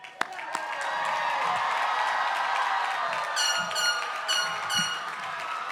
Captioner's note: applause